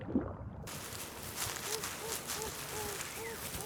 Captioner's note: rustling